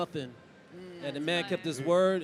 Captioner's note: group murmurs